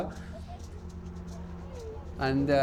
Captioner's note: indistinct chatter